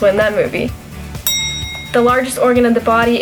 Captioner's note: bell ring